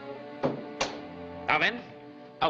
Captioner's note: door closing